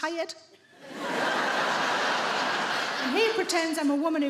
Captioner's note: audience laughing